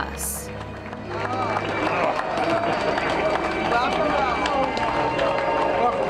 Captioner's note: cheers and applause